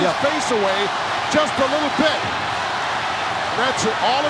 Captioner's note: audience cheering